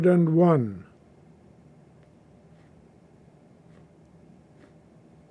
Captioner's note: pauses 6 seconds